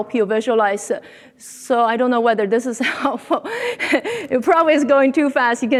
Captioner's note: laughs